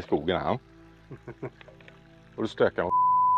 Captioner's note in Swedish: Skratt